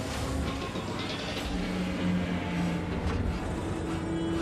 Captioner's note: clanking and creaking